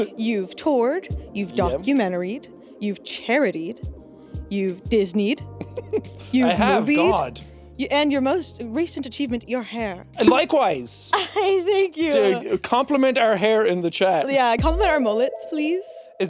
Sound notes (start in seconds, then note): 10.2 chuckles